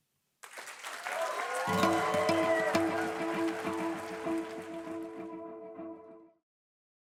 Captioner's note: applause and music playing